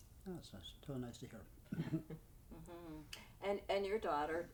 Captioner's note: chuckles